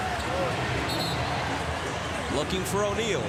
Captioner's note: whistle blows